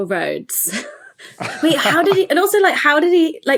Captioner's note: laugh